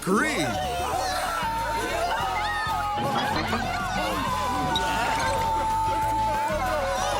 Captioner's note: all scream